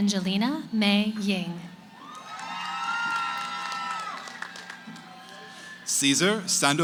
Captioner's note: cheering